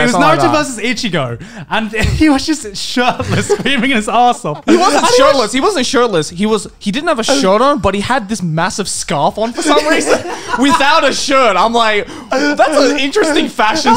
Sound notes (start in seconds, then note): 9.4 laughing